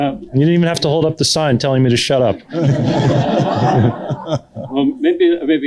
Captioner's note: laughter